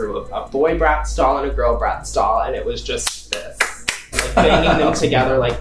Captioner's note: clapping